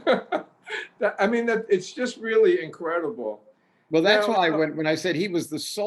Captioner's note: laughs